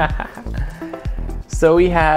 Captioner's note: chuckles